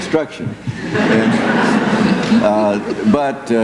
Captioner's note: laughter